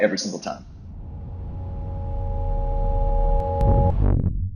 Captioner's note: signature whooshes